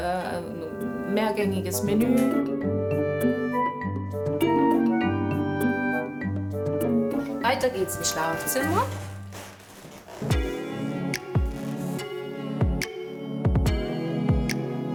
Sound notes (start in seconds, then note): 2.3 playful sounds; 10.2 relaxing music